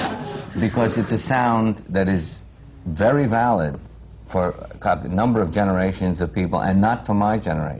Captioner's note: laughter